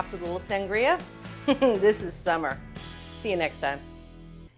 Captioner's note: chuckles